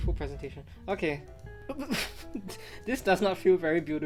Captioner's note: chuckles